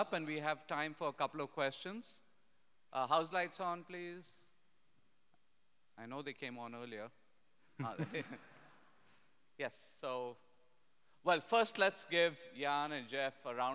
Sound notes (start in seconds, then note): 8.1 audience laughing